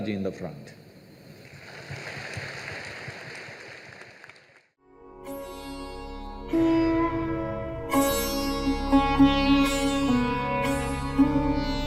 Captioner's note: applause